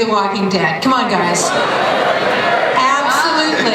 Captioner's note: audience shouts